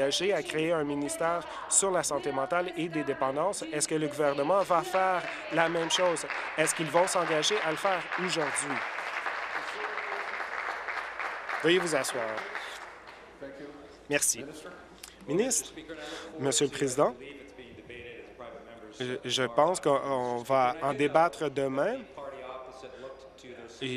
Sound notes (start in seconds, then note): 10.1 applause